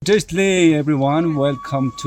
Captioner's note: tibetan language